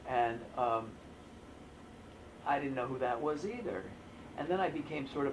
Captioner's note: none